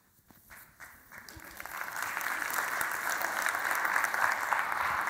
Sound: audience applause

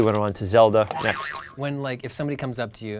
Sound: boing

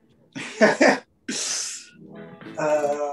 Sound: laughs

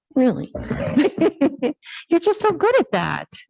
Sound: laughs

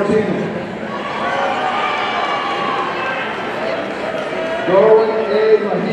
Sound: audience cheering

